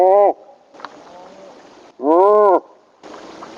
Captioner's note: imitating animal call; animal call; imitating animal call